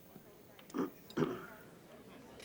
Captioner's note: man clears throat